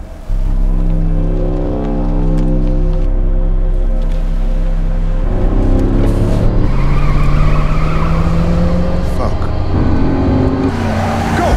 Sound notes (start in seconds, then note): 0.2 tense music; 6.1 engine revving; 6.1 tires screeching; 10.0 engine revving